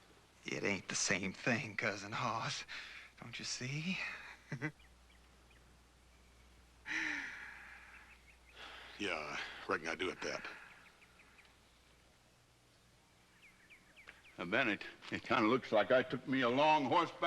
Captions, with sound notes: IT AIN'T THE SAME THING, COUSIN HOSS. DON'T YOU SEE? ( Muley laughs ) YEAH, I RECKON I DO, AT THAT. NOW, BEN, IT... IT KIND OF LOOKS LIKE I TOOK ME A LONG HORSEBACK RIDE